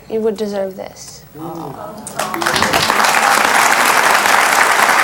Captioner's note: audience cheers